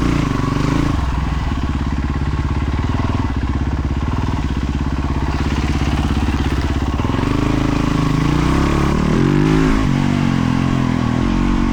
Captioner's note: engine revving